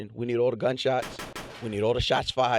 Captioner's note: gunshots